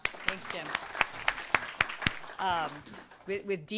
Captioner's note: applause